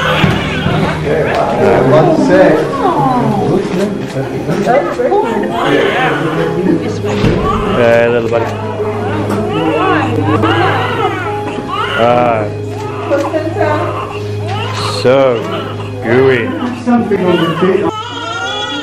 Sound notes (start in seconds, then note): 0.0 baby cries; 3.4 doctors talking, Nurses talking to baby, camera shutter clicking; 4.9 nurse says something about the cord. Baby Cries; 8.9 baby crying; 13.9 baby crying; 17.0 baby crying